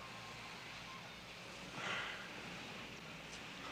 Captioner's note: Vic sighs; exhales softly; indistinct chatter